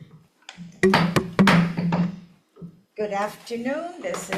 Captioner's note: gavel banging